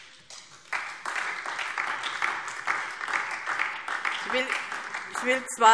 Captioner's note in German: Beifall DIE LINKE und vereinzelt SPD